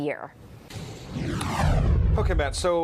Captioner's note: whoosh